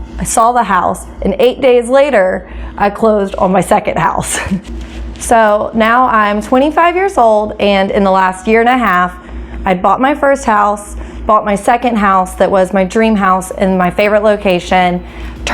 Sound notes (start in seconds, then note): 4.2 chuckles